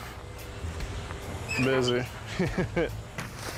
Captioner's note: stove creaks; laughter; paper flaps